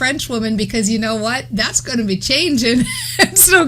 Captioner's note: laughs